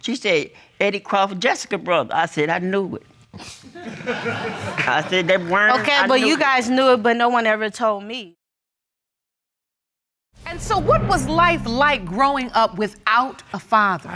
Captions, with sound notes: She said, "Eddie Crawford, Jessica's brother." I said, "I knew it." (AUDIENCE LAUGHING) I said... Okay, but you guys knew it, but no one ever told me. And so what was life like growing up without a father?